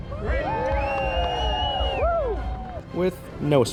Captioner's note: crowd cheers